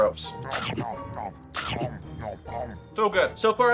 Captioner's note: upbeat music; comical chewing